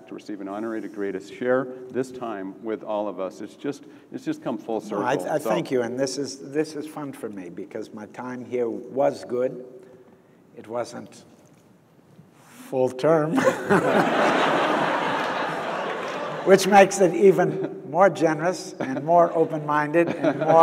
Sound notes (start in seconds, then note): 13.4 audience laughs